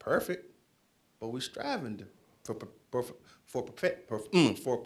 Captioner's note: stammers